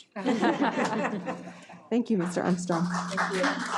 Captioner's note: audience laughing